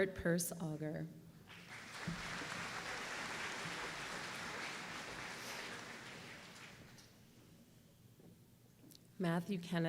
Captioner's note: applause